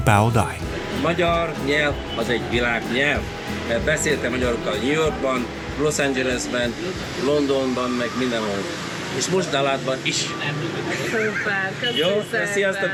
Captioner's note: speaking Hungarian